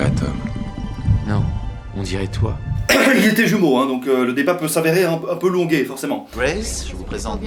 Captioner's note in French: tousse